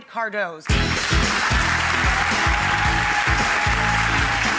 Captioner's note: applause